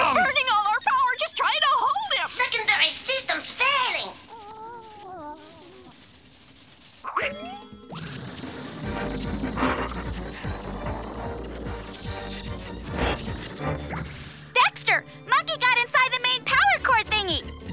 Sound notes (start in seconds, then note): 4.6 monkey exclaims; 13.4 glass shatters